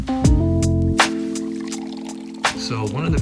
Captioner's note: coffee pours